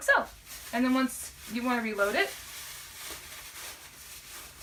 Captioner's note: bag crinkling